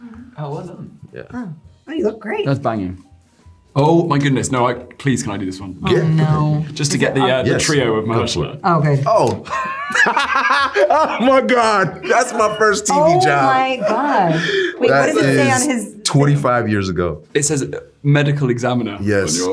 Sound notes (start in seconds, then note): 9.4 laughing